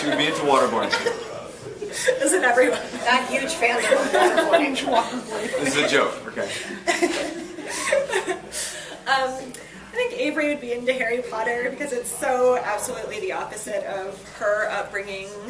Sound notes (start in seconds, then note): 5.4 laughs